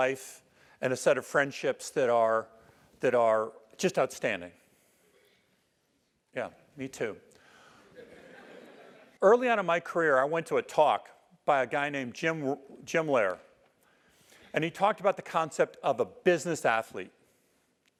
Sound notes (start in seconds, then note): 7.9 laugh